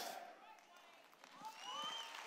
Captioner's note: cheers